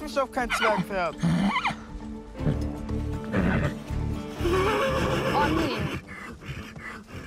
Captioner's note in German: Wiehern